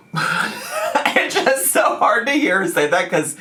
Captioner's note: laughing